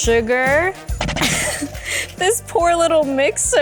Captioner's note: laughs; mixer fumbles